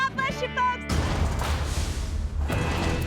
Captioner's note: echoing slam; suspenseful music